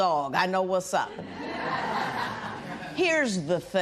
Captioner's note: laughter